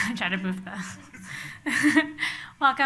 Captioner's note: laughs